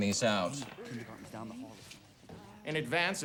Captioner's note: students murmuring faintly